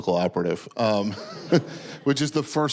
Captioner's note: audience laughing